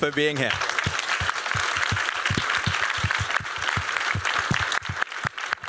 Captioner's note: applause